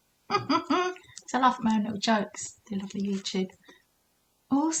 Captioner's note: laugh